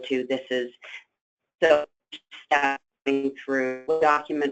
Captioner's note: static